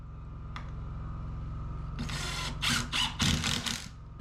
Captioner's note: drill whirring